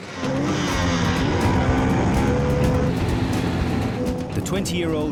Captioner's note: engine revs; dramatic music